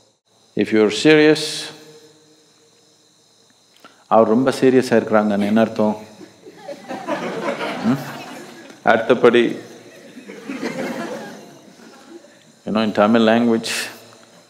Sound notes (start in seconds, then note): 3.7 laughter; 3.7 speaks in Tamil – not transcribed